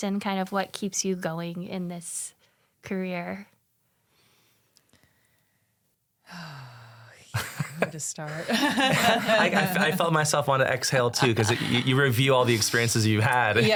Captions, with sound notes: and kind of what keeps you going in this career? - (exhales) Want to start? (laughs) - I felt myself wanna exhale too 'cause you review all the experiences you've had-